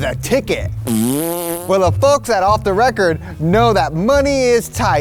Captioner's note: blowing